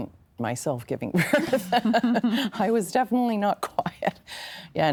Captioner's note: laughing